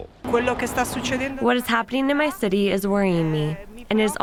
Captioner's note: through translator